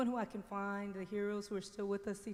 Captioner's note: none